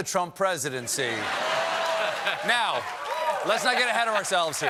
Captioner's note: laughter